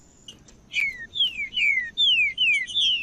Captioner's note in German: trinca ferro cantando